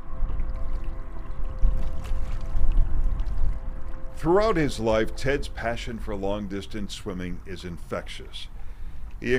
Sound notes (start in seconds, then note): 0.1 water splashing gently